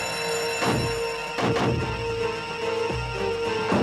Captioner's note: alarm ringing